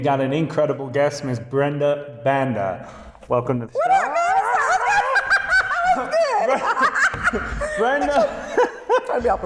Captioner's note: laughing